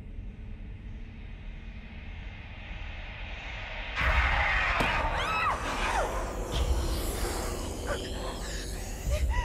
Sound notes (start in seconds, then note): 3.5 Lily screaming; 3.5 mother growling